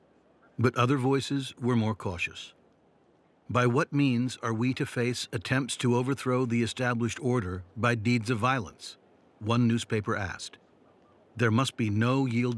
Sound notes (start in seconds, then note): none